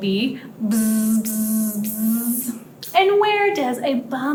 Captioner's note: buzzing